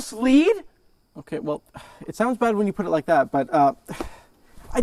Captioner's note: rising voice; exhales